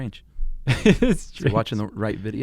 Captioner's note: laughing